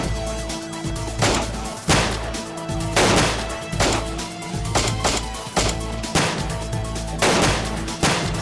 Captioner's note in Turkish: si̇lah sesleri̇